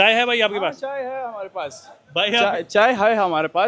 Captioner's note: speaking in Hindi